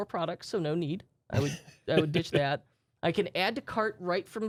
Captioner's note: softly chuckling